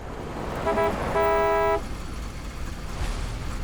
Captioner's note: honking